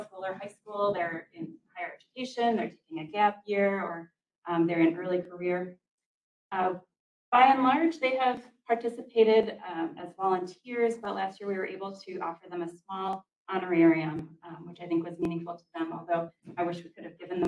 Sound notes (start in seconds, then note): none